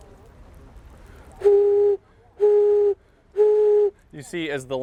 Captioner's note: bottle whistles